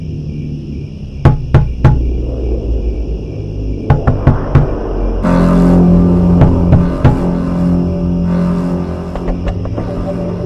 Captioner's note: knock on window, eerie music, crickets